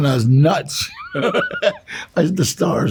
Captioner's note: Danny chuckles